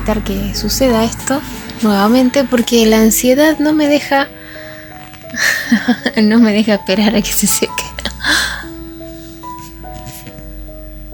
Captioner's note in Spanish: risas